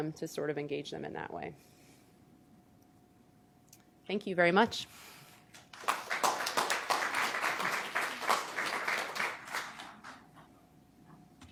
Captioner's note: applause